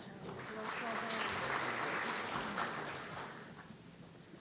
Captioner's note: audience applauding